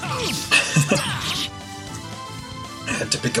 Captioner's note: chuckles